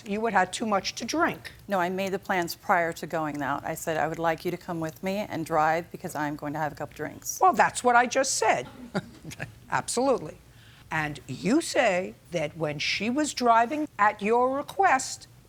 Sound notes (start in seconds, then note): 8.7 chuckles